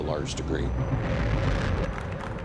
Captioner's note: car motor rumbling